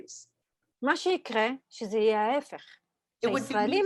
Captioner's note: Hebrew